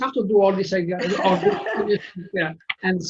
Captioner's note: laughing